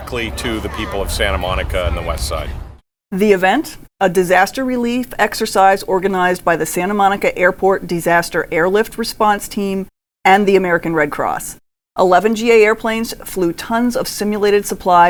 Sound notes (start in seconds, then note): 3.4 voiceover